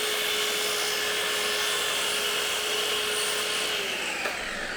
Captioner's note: tool whirs